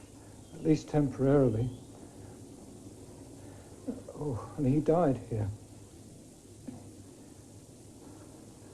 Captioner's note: sighs